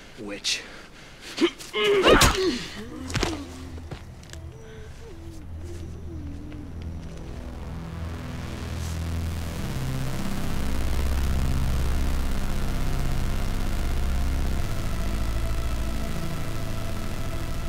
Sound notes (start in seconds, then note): 1.4 Rosemary grunting; 7.1 suspenseful music